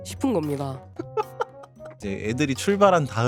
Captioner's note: laughter